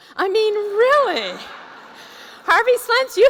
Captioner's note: laughter